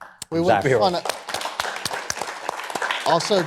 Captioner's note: cheers and applause